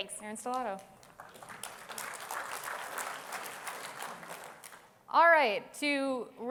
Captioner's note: applause